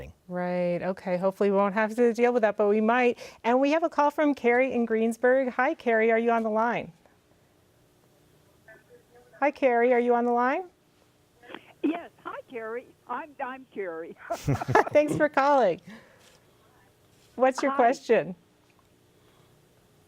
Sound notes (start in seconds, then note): 14.3 all laugh